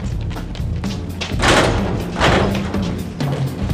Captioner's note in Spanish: pasos corriendo; golpe de portón